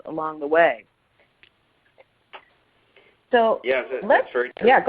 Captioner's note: silence